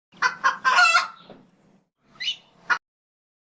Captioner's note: rooster crows